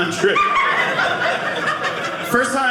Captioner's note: audience laughing